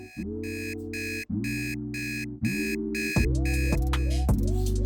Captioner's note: alarm clock beeps